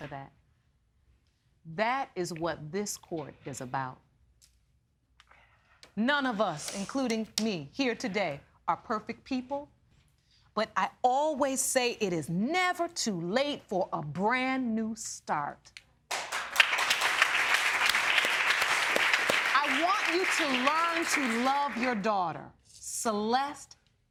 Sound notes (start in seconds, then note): 16.1 audience applauding